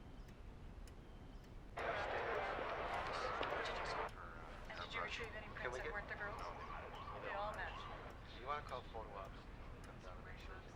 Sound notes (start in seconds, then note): 1.5 police radio chatter